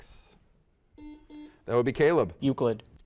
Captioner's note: buzzer dings